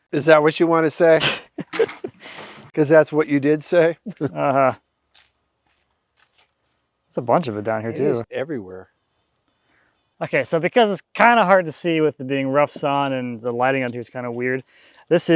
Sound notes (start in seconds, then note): 1.2 both laughing